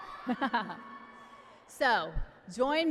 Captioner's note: cheering continues